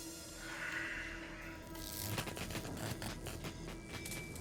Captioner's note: static sound